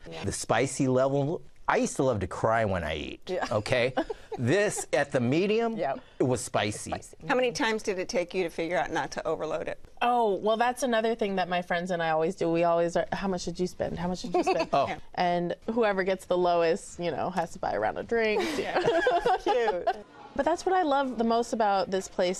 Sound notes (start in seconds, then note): 18.4 laughs